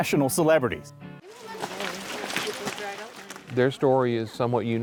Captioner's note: footsteps